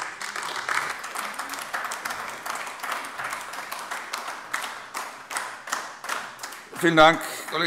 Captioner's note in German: Beifall AfD